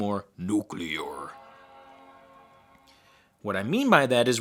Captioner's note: startup sound